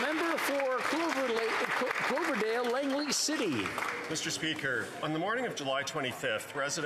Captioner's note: applause